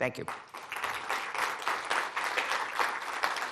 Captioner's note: applause